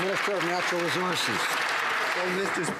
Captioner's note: some Applause